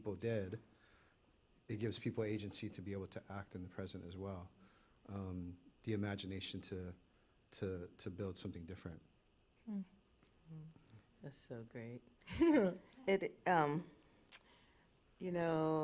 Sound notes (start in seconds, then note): 12.3 chuckles